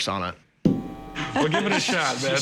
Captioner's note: laughter